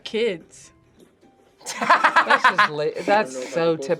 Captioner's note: laughs